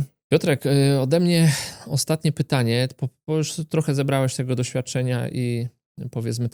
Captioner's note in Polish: westchnienie